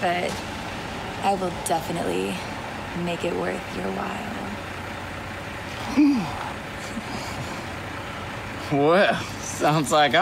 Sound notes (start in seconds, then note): 5.8 pleasurable grunt